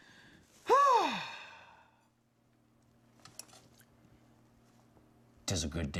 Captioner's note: sigh